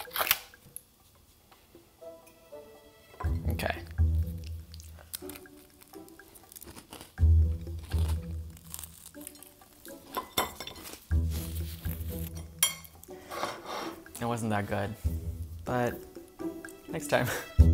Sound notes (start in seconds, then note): 0.2 jar covering slaps; 6.6 chewing loudly; 10.1 waffle clangs on plate; 10.4 napkin shuffles; 12.4 knife clangs on plate